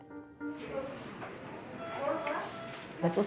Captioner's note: indistinct chatter; machine beeps